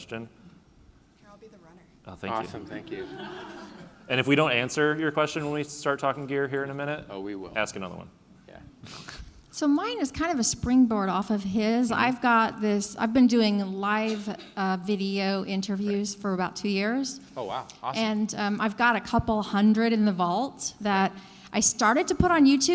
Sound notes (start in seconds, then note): 2.4 laughing